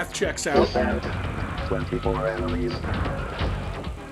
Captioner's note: robotic narrator